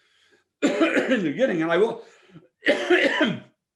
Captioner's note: coughs